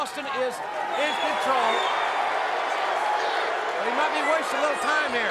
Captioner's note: crowd cheering